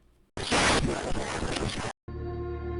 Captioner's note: radio static